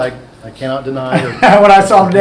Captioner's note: laughing